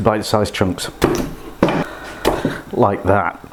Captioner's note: chop chop chop